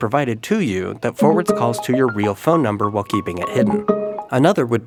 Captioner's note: upbeat ringtone